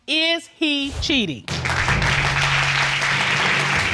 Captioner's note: audience applauds